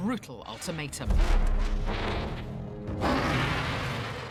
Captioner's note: roars